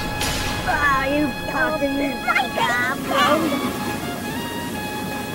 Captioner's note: audible complaining from disgruntled passengers